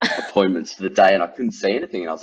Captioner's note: laughs